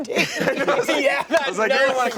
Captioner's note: laughter